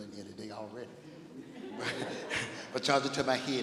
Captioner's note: laughing